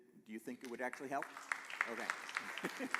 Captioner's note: applause